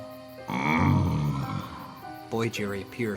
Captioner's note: Lumber Axe groaning